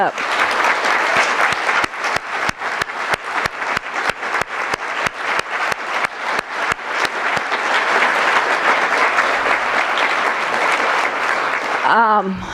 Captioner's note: applause